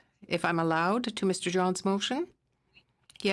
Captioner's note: speaking FRENCH